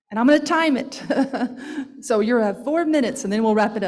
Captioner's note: laughs